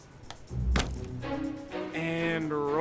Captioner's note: upbeat stirring music; ingredients thumping